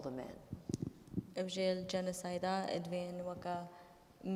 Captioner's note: speaking kurdish